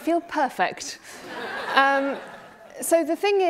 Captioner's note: laughing